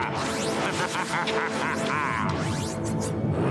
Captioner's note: evil laughter